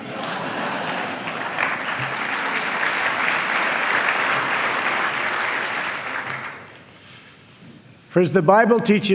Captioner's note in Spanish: aplauso